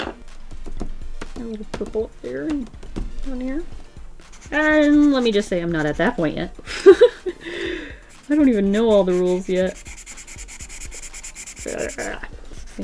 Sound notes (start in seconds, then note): 6.5 laughs